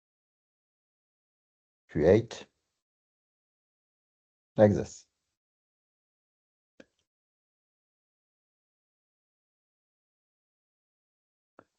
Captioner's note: silence/Checking